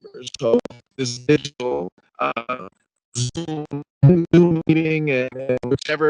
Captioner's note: speech distorting